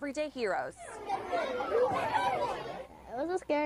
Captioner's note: children talking